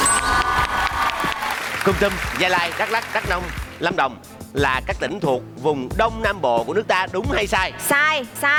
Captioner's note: clapping